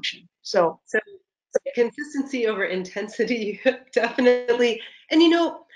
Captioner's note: laughs